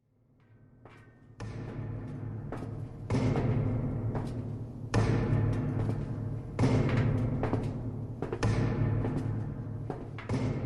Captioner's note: footsteps and metal banging SFX